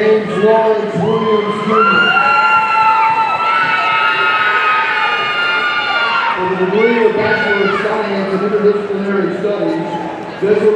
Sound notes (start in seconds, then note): 2.5 audience cheering